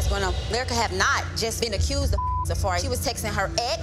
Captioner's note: beep